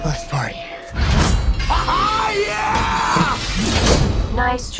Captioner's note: laughs